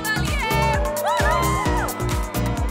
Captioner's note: Cheering